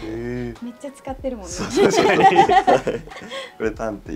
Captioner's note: laughs